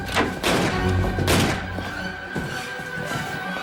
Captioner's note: gunshots